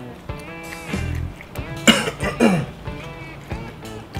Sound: coughs

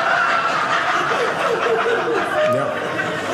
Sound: audience laughing

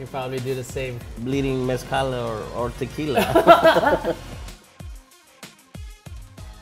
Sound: laughing

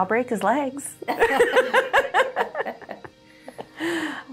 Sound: laughs

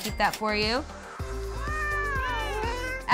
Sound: cat meowing

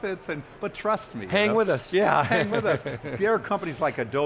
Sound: laughs

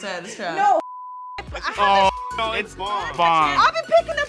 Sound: beep

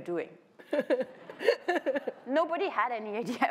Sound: laughter

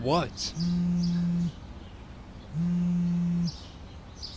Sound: phone buzzing

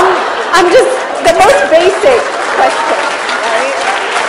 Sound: laughter/Applause

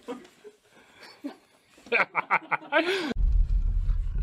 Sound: laughter

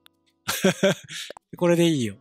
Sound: giggle

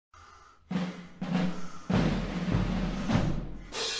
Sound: heavy breathing

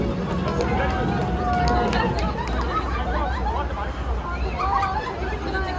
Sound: group applause

